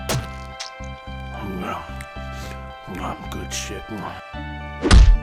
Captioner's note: chewing noises